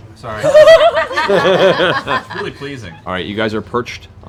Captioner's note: laughter